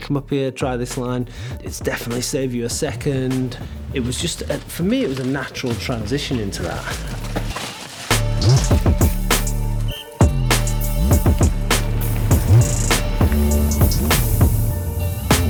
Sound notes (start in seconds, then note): 8.2 dramatic music; 10.3 whistle blowing; 12.5 dramatic music